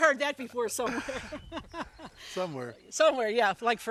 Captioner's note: laughing